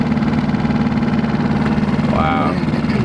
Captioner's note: boat engine running